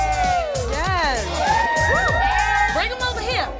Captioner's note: women cheering